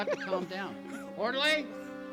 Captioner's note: P.J. crying